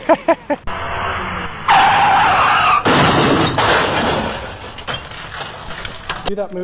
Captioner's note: tires squealing, crashing sound